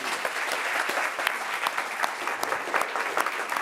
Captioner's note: applause